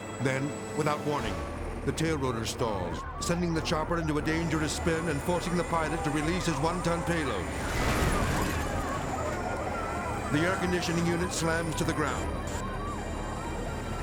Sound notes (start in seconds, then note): 7.3 air conditioner smashing; 7.3 crowd exclaiming